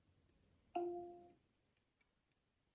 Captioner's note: device chimes